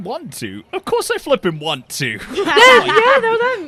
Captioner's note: laughter